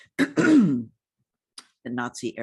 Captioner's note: clears throat